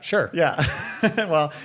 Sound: both laugh

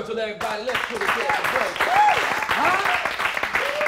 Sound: applause

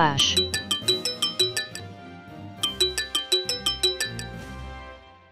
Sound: phone chime

